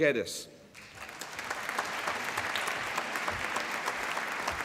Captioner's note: applause